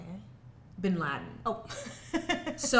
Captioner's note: laughs